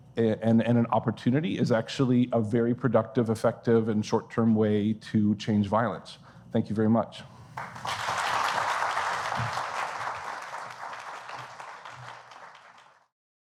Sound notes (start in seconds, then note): 7.5 applause